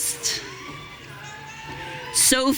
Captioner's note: audience cheering